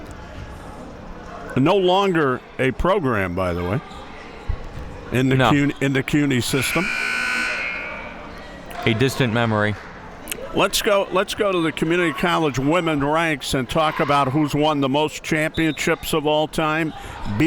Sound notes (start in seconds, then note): 6.4 buzzer sounding